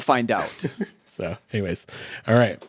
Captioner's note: chuckles